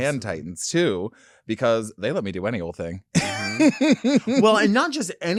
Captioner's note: laughing